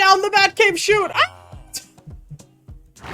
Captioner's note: yelling, laughing